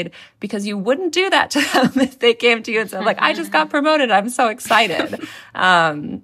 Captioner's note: laughter